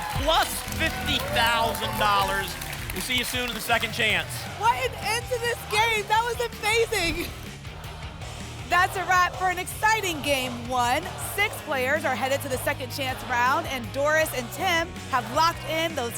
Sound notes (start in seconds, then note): 7.7 audience chanting "double!"